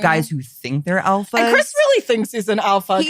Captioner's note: all laughing; laughs